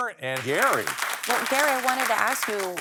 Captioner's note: audience applauding